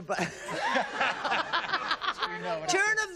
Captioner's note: laughter